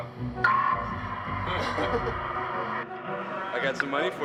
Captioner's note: laughing